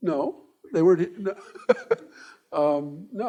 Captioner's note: laughing